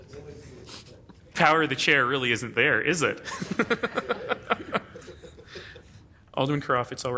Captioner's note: laughing